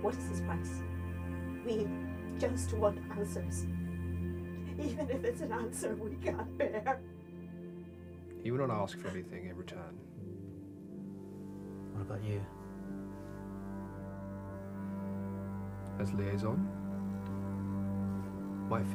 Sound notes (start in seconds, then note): 8.2 sobbing